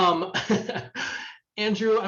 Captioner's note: laughs